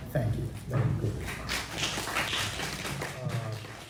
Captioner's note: attendees claps